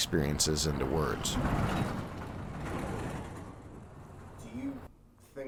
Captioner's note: truck rattling